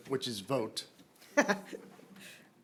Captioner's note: laughter